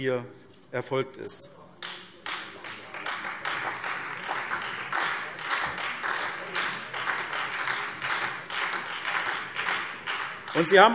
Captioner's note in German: Beifall SPD und Freie Demokraten